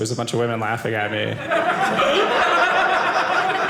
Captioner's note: audience laughing